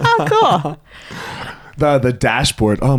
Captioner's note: laughs